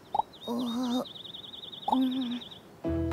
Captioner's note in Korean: 짹짹, 새소리